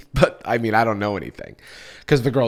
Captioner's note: sighs